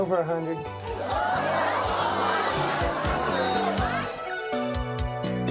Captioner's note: audience murmurs; melancholy music